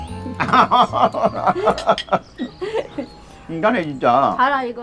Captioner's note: both laughing